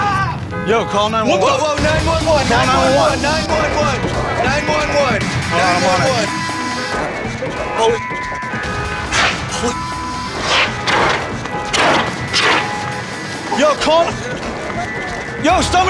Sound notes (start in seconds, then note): 0.1 screaming; 4.3 horn honking; 7.3 beep; 7.9 horn honking